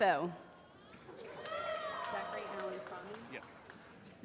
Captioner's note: applause